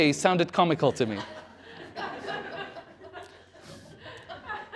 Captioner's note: laughter